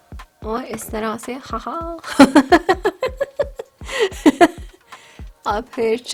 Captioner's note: laughs